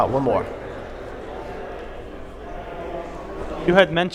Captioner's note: audience chatter